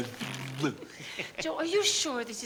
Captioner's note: spluttering playfully